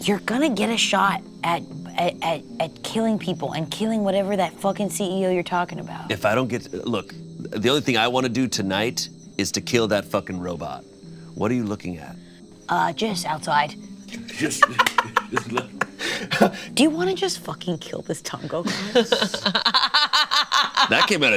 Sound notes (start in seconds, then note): 14.2 laughs; 18.4 Delores laughs